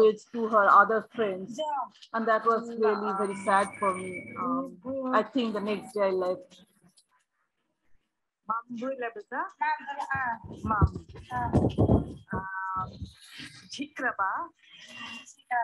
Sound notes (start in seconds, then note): 9.7 girl speaking in foreign language; 10.0 speaking gibberish